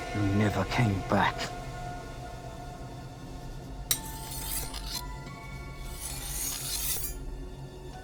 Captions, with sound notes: You never came back. (eerie music) (blade rasping)